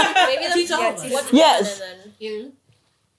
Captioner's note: laughing; Counting in Korean